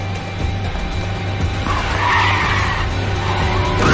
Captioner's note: brakes screeching